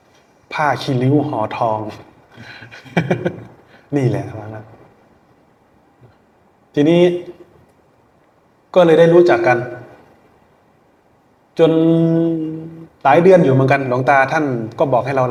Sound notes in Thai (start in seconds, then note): 2.4 เสียงหัวเราะ